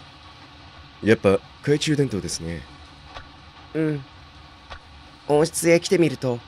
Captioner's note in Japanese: 雨音：ザアァァー･･･